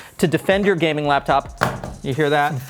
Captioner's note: thumping